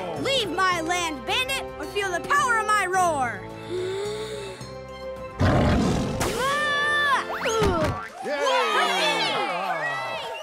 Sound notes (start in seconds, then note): 3.6 inhales; 5.5 roars; 8.0 cheering